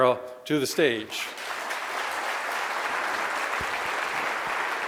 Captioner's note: audience applauding